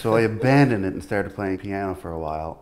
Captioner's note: everyone laughs